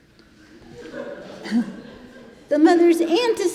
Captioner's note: congregation laughing